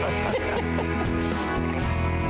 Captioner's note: laughter